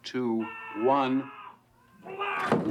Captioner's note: man yelling; kids laughing